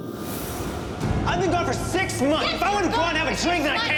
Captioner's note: shouts